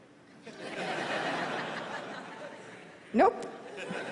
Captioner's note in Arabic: ضحك